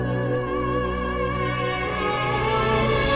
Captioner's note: none